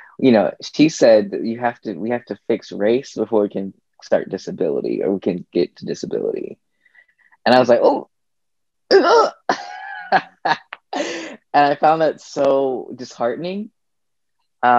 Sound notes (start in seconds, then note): 9.4 chuckles